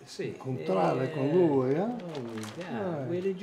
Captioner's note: speaks in foreign language